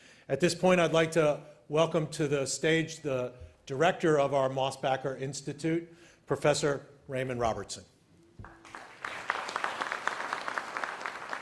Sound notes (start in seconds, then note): 8.4 applause